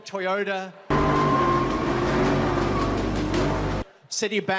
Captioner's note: gürültülü kükreyen motor